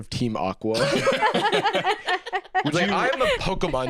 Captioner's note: laughs